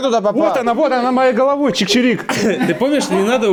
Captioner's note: sarcasm